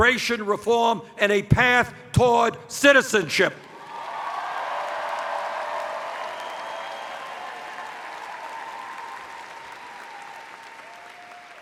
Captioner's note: cheers